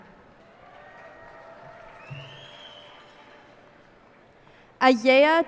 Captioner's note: cheers and applause